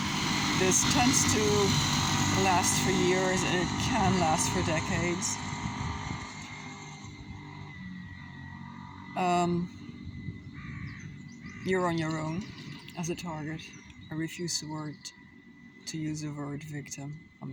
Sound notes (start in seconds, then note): 6.4 traffic noise